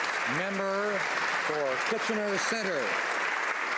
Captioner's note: some Applause